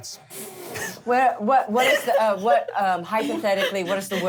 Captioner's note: all snicker